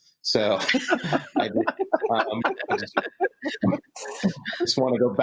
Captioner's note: all laughing